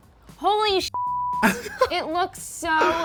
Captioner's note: beep